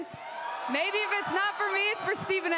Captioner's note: crowd cheers